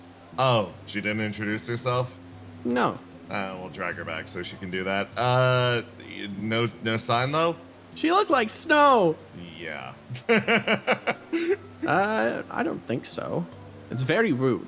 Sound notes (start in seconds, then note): 10.1 laugh